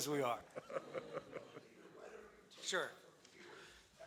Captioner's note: speaking off mic